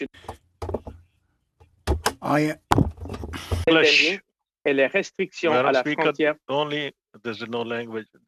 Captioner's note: speaking French